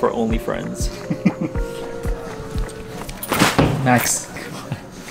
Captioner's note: laughing